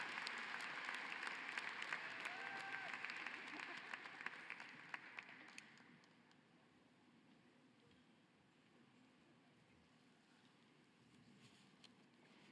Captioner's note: cheering and applause